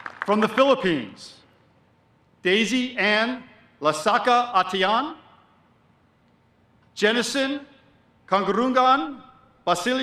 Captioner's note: applause